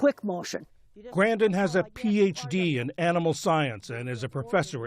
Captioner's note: voice-over